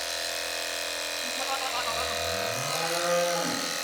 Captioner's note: goat bleating, cow mooing